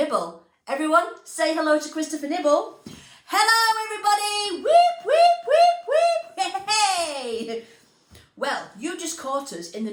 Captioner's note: laughter